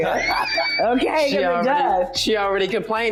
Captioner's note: laughing